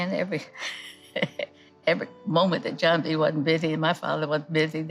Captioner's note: laughs